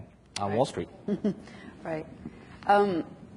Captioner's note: chuckles